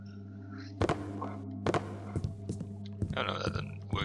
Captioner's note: repeated loud tapping on wood